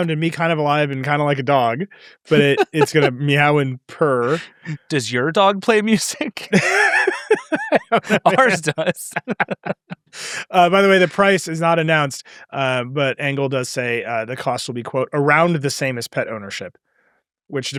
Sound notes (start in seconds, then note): 7.1 laugh